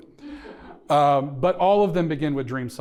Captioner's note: audience chuckling